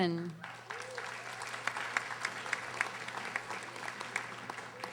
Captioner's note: audience applauding